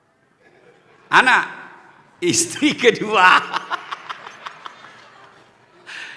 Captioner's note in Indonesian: tertawa